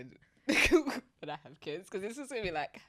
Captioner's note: chuckles